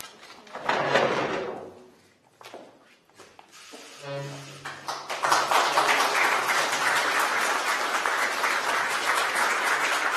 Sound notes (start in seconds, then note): 3.4 camera shutters clicking; 4.6 applause